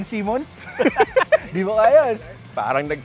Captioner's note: laughs